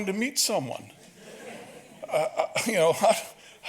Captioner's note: audience laughs